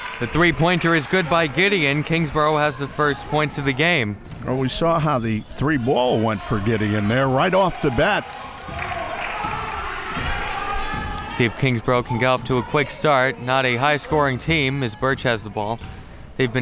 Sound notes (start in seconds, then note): 9.4 crowd clapping